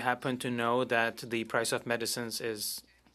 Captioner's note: speaking French